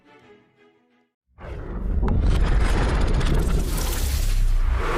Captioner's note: various whooshing sounds